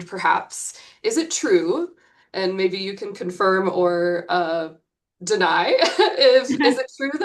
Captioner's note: chuckles